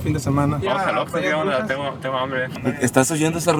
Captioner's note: on the radio